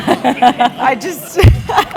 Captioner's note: laugh